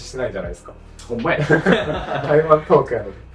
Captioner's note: laughs